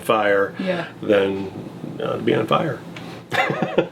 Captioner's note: laughing